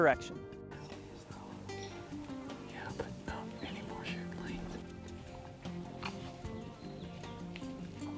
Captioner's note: whispering